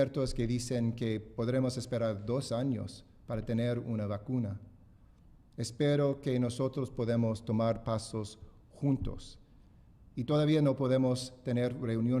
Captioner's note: speaking spanish